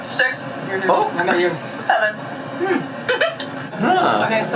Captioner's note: giggles